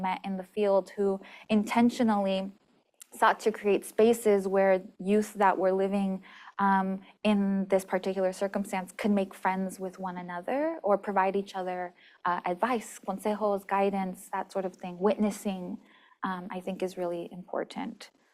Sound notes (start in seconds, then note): 13.2 spanish